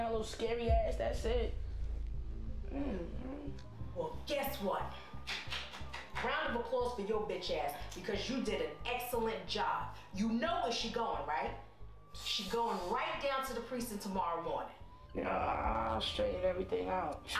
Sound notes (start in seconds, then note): 5.2 Auntie claps